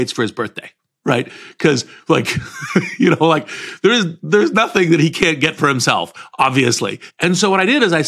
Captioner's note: laugh